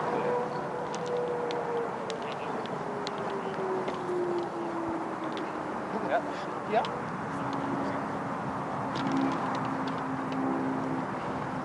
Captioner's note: course chatter